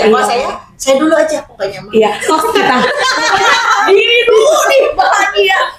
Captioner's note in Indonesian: tertawa